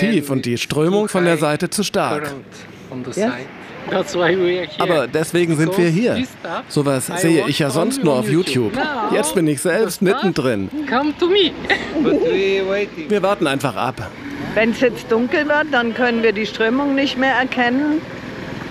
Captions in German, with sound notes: und die Strömung von der Seite zu stark. (englisch:) Aber deswegen sind wir hier. So was sehe ich ja sonst nur auf Youtube. Jetzt bin ich selbst mittendrin. (englisch:) Wir warten einfach ab. Wenn es jetzt dunkel wird, dann können wir die Strömung nicht mehr erkennen.